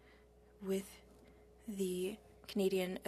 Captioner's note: speaking French